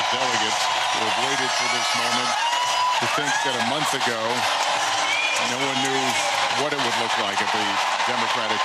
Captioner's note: applause